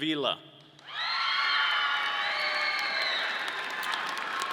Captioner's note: audience cheering